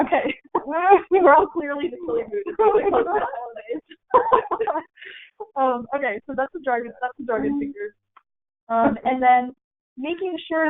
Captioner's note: everyone laughing